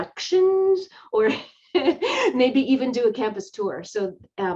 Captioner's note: laughing